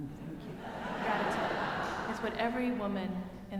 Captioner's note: audience laughing